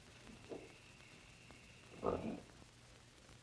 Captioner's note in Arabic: يئن